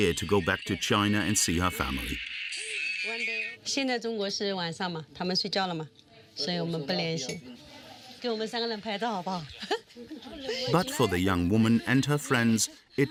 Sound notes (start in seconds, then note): 3.7 speaking foreign language